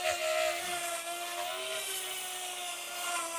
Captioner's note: none